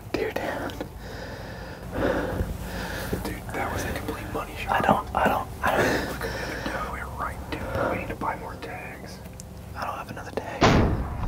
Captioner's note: whispering